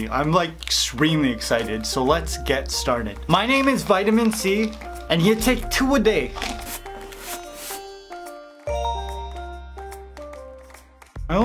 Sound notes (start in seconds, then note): 6.8 swishing; 7.8 bell chimes